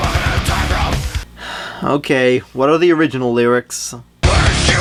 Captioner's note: sigh